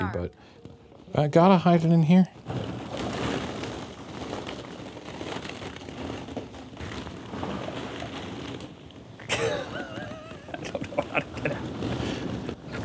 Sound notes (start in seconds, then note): 2.7 plastic balls rustling; 9.2 chuckling